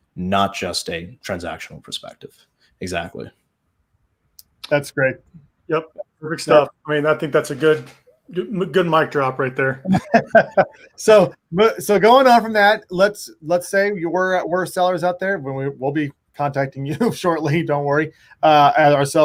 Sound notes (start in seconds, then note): 9.8 both laugh